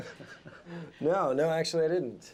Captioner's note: laughs